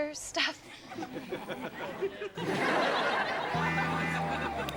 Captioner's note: audience laughs; gentle lilting music